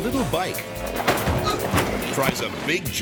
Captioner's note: motorbike thuds; person thuds